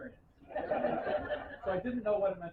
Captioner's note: laughter